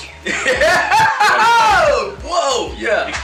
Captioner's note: boisterous laugh